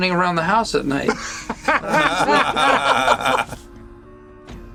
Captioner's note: laughter